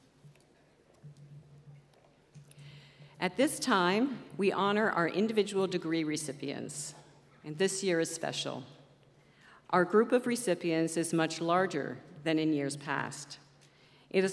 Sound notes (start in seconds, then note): none